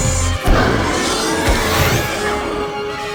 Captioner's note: laser buzzes; raptor roars and pounces; dramatic music